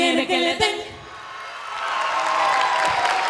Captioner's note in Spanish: Aplausos